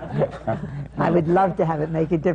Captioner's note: laughter